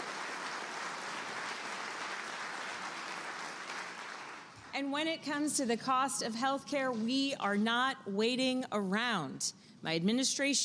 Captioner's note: applause